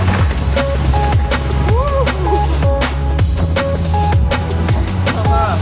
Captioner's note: biker whooping